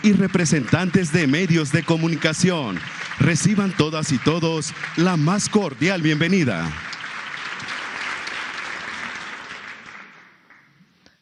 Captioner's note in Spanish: aplausos